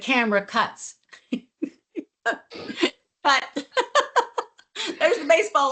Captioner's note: laughs